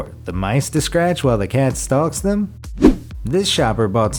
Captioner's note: air whooshes